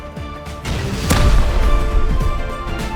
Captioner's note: boom